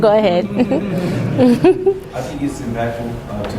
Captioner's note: laughing